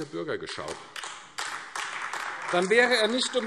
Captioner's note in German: Beifall AfD